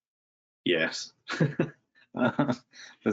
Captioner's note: laughs